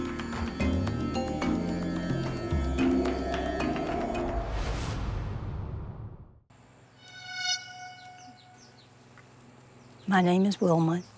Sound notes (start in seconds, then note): 6.8 birds chirping